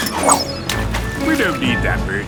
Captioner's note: splashes